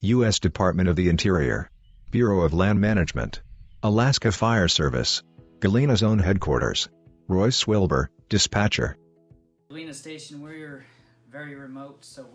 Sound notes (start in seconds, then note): 0.0 birds chirping; 4.4 soothing music